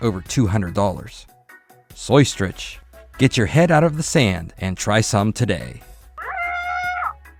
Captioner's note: squawk!!